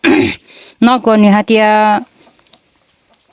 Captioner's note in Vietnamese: hắng giọng